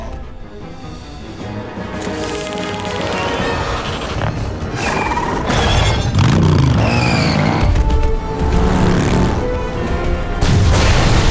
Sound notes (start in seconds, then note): 2.2 electricity crackling